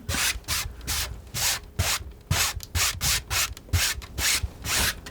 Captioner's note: scratching